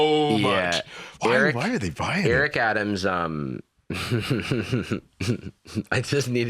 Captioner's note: laughs; laughs